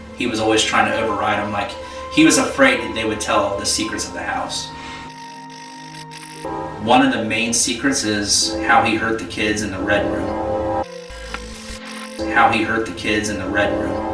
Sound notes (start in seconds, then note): 5.0 static fizzing; 10.8 static fizzing